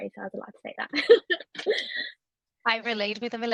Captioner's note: laughs